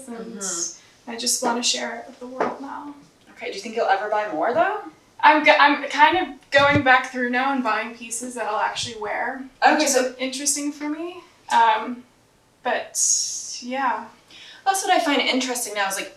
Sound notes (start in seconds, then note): none